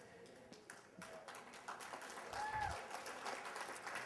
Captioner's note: applause